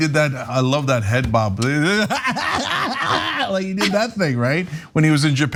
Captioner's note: laugh